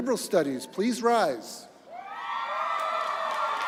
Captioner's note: applause